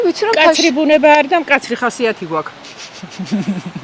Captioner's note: laughing